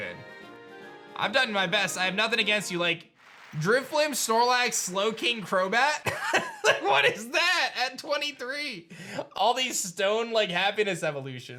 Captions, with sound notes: I've done my best. I have nothing against you. Like Drifblim, Snorlax, Slowing, Crobat... (chuckles) What is that? At 23. All these stone like happiness evolutions.